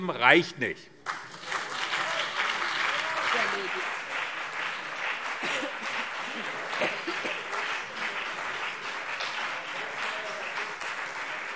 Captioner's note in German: Beifall BÜNDNIS 90/DIE GRÜNEN und CDU